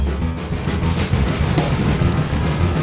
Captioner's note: wood rattling